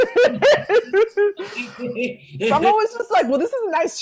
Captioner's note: both laughing